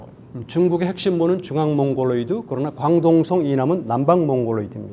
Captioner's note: speaking in Korean